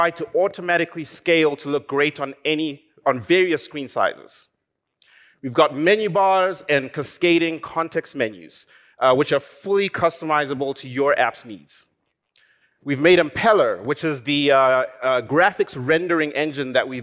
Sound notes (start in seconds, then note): none